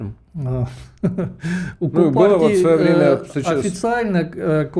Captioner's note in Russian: смех